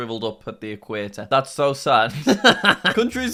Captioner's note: laughing